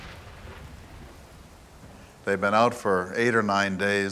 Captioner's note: shrill crack of lightning